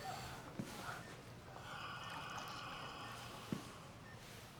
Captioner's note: the sound of medical equipment beeping in background; Florio breathes loudly through the mask